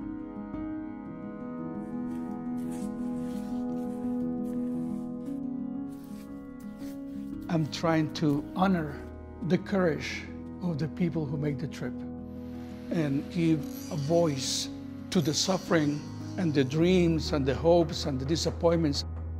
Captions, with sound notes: (somber music) (paintbrush swishing) - I'm trying to honor the courage of the people who make the trip. And give a voice to the suffering, and the dreams and the hopes and the disappointments,